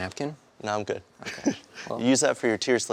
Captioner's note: laughs